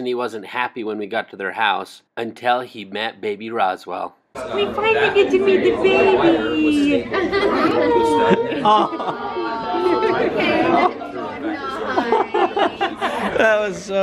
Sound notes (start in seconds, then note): 6.7 giggling; 7.6 ooohing and ahhhhing; 11.6 giggling